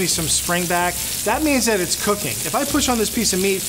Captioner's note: none